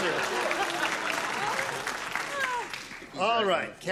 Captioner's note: applause